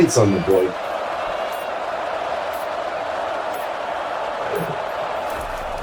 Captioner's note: crowd Noises